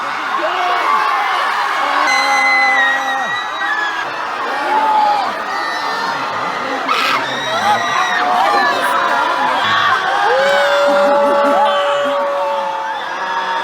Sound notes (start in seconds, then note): 0.0 assorted AAAAAHHHs; 2.1 aaaaaaaaaaah!; 9.4 AHs and other screams